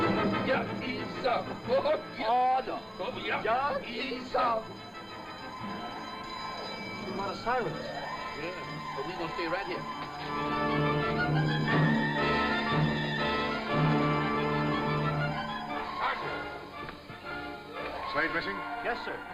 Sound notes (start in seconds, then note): 0.5 speaking in foreign language